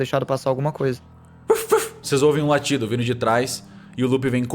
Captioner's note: ruf ruf